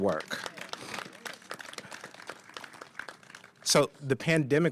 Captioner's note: applause